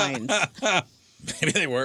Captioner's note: laughter